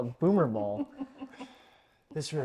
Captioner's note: laughs